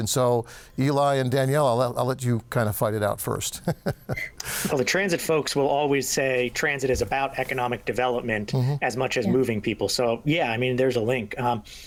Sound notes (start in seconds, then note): 3.5 laughing